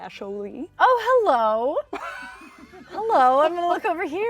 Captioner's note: chuckle